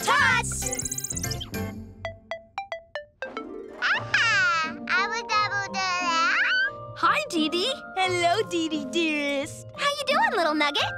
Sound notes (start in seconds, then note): 0.6 FlyPad ringing; 3.9 babbles